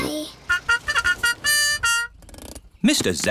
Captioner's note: horn tooting